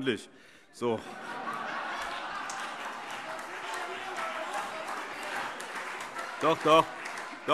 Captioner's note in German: Allgemeine Heiterkeit und Beifall